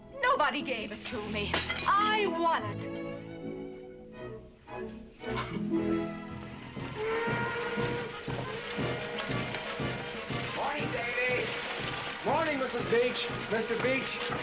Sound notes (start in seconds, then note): 6.8 train whistle